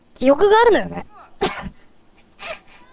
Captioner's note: laughing